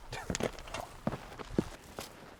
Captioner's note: footsteps